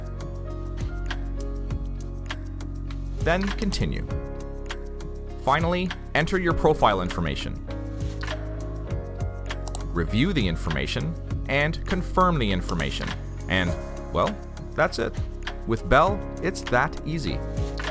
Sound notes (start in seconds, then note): 9.6 mouse click; 12.7 mouse click